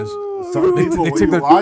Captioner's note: screaming